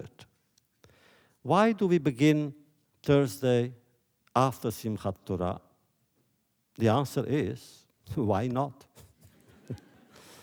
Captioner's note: laughter